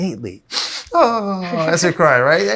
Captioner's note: mimics crying; laughs